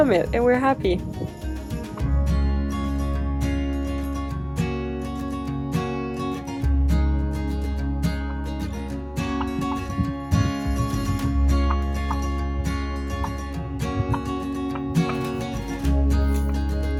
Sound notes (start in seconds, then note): 9.0 turkey makes some vocal sounds